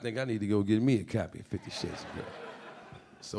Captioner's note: audience laughing